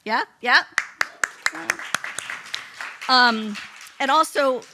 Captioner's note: applause